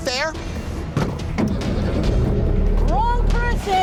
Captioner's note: car door slams